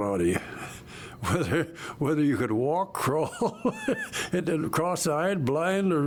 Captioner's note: laughing